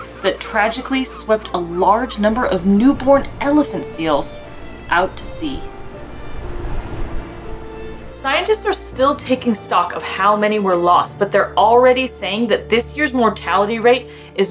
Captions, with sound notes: that tragically swept a large number of newborn elephant seals out to sea. (background music) (waves crashing sound) Scientists are still taking stock of how many were lost, but they're already saying that this year's mortality rate is